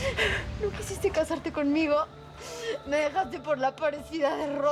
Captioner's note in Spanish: Sollozos